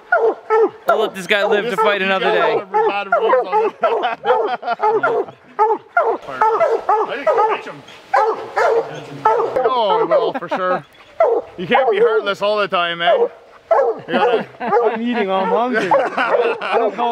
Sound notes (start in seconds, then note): 0.3 dogs barking; 2.7 mumbling while dogs bark; 8.0 dogs barking; 13.6 men laughing